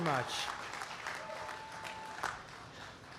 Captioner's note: applause